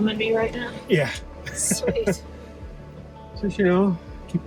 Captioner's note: laughs